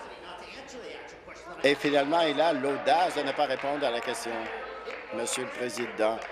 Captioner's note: applause